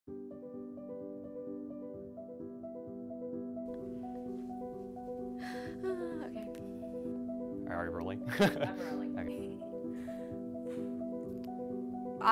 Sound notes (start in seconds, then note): 0.3 soft music; 8.3 laughs; 8.3 woman laughs